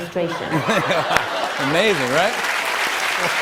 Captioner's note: laughter; applause